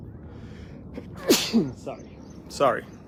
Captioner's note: sneeze